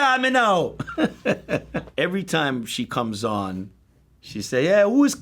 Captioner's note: chuckles